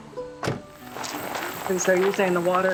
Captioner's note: door thudding